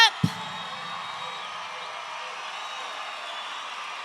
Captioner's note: audience cheering